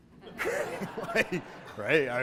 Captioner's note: audience laughter